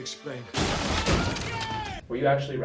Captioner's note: men yelling